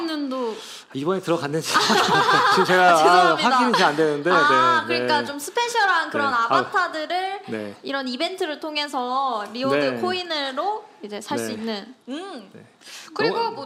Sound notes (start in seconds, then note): 4.7 laughter